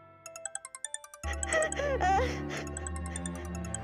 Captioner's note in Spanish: suena el celular